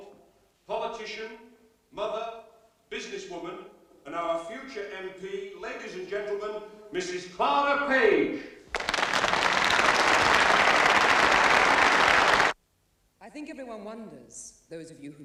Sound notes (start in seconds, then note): 8.7 applause